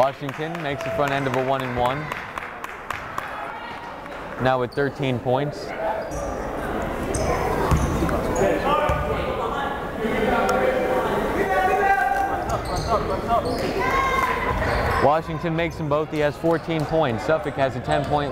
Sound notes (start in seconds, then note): 9.8 yelling